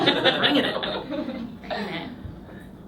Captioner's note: laughing